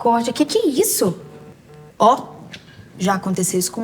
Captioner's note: multiple notifications; night notifications continue